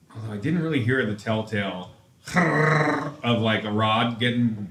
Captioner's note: makes engine noise